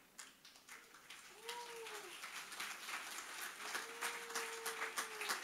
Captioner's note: audience applauding